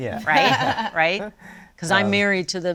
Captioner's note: laughs